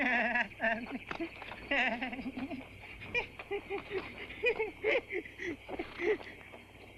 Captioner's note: nervous giggling